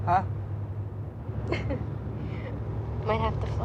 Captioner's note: chuckles